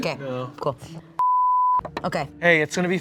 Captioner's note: beep